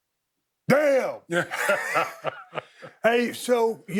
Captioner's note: both laughing